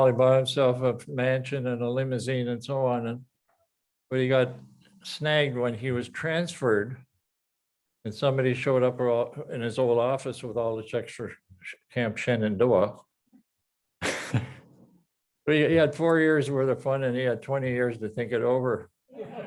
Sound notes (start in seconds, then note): 14.0 laughs